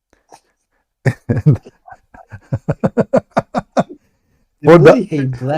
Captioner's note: Ketawa